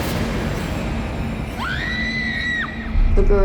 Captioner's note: screaming